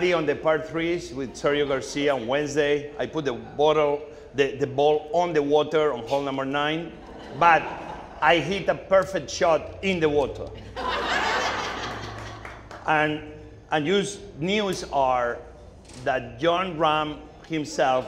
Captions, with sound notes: on the par threes with Sergio Garcia on Wednesday. I put the ball on the water on hole number nine. But I hit a perfect shot in the water (audience laughing) and the news are that Jon Rahm himself